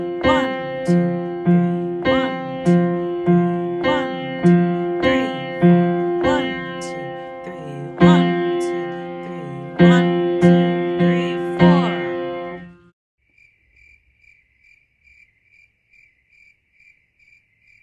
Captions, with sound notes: 1, 2, 3, 1, 2, 3 1, 2, 3, 4 1, 2, 3 1, 2, 3 1, 2, 3, 4 (crickets chirp)